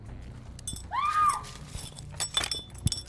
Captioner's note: screaming